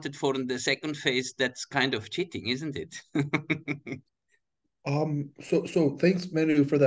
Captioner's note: chuckling